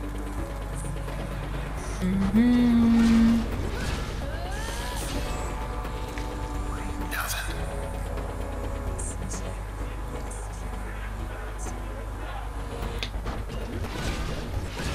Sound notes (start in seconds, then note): 2.0 hums with BGM